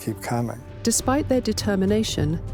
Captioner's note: voiceover